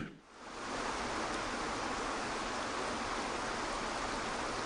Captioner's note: waterfall rushes